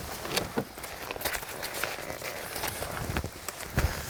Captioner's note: creaking vest sounds